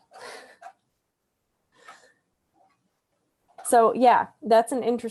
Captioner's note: laughs